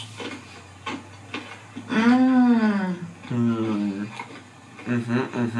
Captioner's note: chews